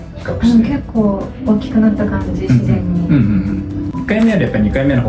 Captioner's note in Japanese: 咳払い